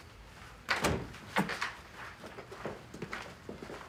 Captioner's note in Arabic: يفتح الباب